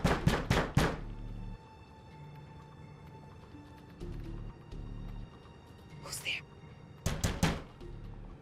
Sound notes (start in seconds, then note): 5.8 whispering